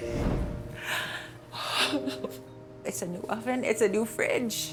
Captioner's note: sobs